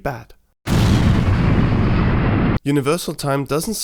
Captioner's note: crash